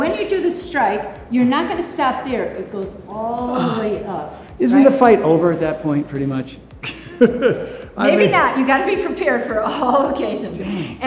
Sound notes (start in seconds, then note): 3.5 Tony sighs; 6.8 laughs